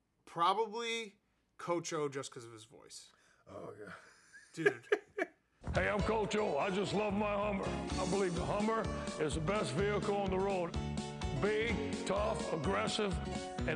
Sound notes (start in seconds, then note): 3.8 laughing; 6.2 upbeat music